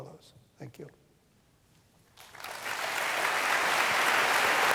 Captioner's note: applause